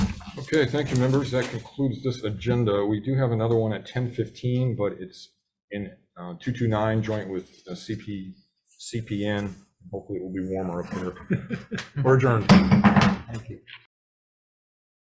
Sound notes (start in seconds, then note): 10.8 chuckles; 12.4 gavel bangs